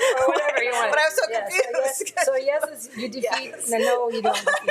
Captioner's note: member laughing